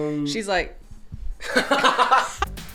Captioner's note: laughing